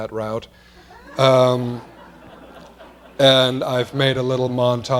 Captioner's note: laughter